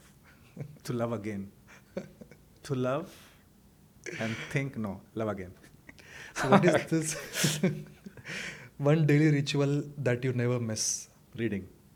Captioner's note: laughter